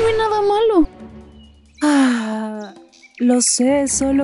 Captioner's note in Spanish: suspira